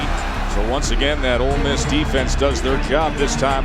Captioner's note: voiceover